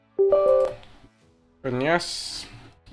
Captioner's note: Windows alert chime